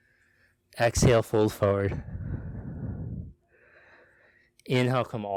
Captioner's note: exhales sharply